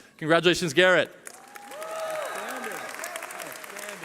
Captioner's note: cheering